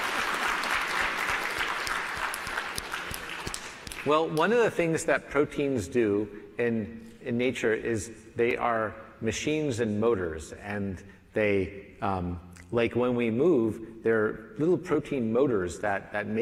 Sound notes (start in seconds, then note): 3.7 applause